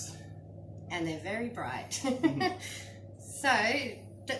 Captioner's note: giggles